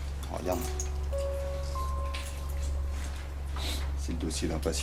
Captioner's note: speaks French